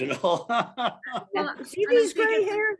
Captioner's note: laughs